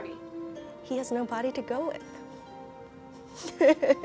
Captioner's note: laughs